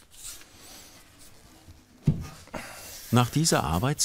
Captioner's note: strained panting